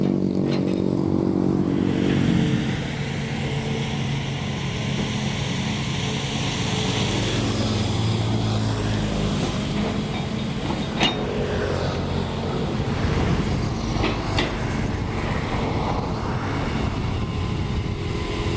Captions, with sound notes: [Engine Rev] Custom Weed Screen Bucket Drains Water & Scoops Weeds Fast!